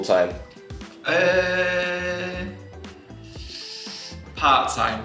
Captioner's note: inhales deeply